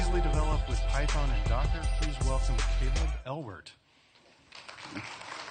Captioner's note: applause